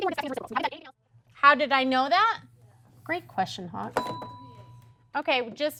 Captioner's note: ding